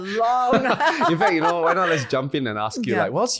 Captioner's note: laughing